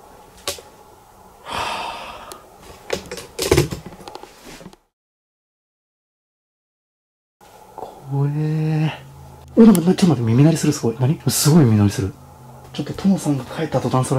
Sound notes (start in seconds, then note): 1.4 big sigh